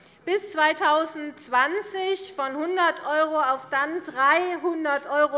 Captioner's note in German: none